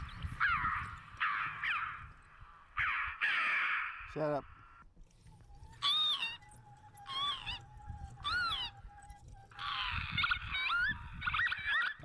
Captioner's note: birds chirping